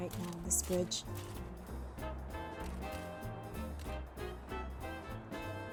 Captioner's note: sound of camera shutter